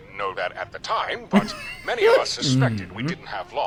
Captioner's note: laughs